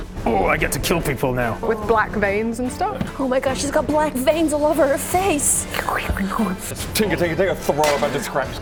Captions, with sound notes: Oh, I get to kill people now. With black veins and stuff. Oh my gosh, she's got black veins all over her face. *tinker-tinker-tinker* Throw of a bunch of scraps.